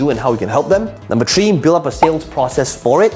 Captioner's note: bubble popping